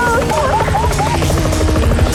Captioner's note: cheer; engine roaring